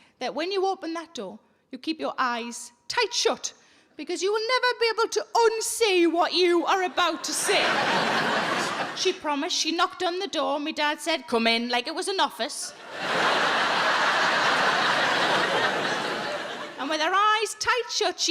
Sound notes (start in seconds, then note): 7.0 audience laughing; 12.7 audience laughing